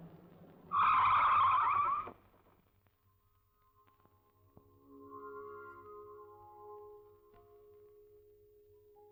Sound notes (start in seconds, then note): 0.6 brakes squeal